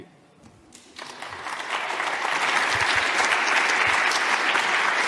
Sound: audience clapping

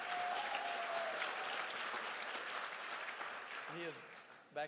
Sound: crowd applauds

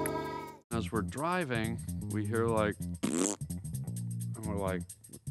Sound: imitates fart

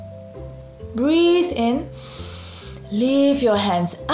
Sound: breathes in deeply

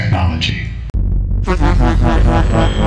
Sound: menacing Laughter

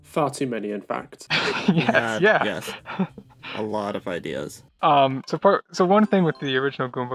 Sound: laughs

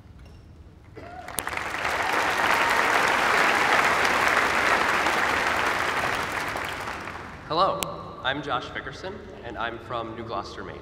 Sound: applause

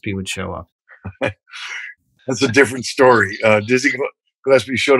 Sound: laughter

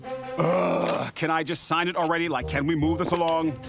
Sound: groans

